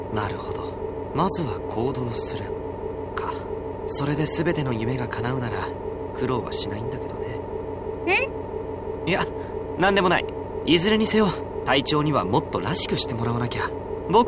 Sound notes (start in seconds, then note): none